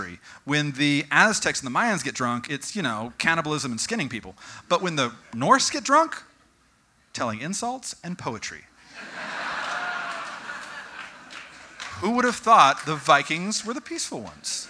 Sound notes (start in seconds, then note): 8.9 audience: Laughing and cheering